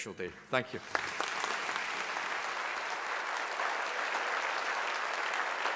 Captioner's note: audience applauding